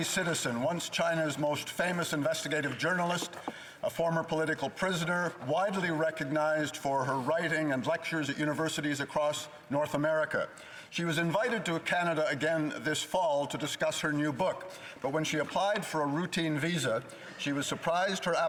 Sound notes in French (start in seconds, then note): 2.3 voix de l'interprète